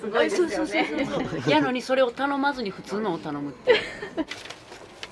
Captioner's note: laughs